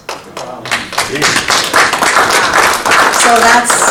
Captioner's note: attendees applauding